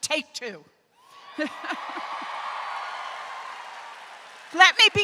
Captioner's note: crowd cheers